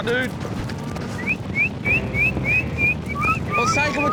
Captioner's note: whistling